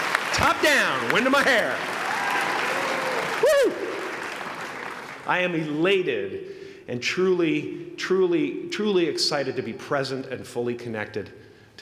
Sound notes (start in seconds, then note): 1.9 applause